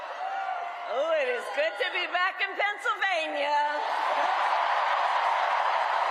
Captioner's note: cheers and applause